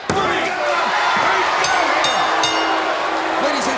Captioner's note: bell ringing